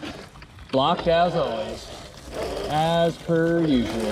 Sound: gear clicks; bike whirring

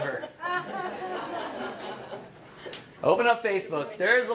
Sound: audience laughs

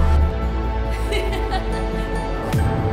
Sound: Kamikaze laughing

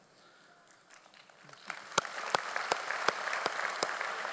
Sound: audience applauds

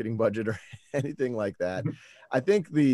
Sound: laughs

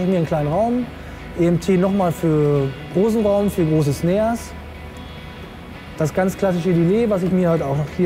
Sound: reverb

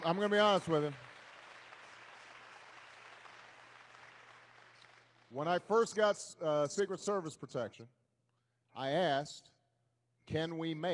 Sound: applause

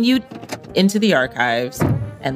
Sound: car door slams

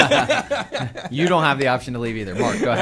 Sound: laughter

